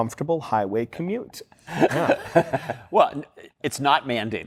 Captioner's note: laughing